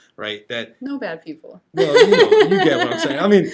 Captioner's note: laughs